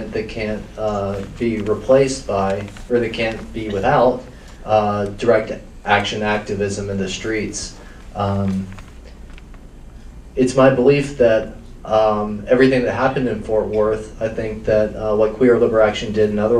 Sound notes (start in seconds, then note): none